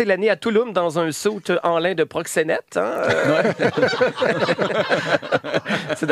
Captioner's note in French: rires